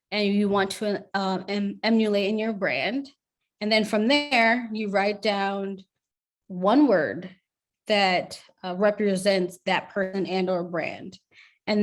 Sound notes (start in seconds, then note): none